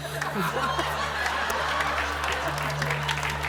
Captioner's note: laughter and applause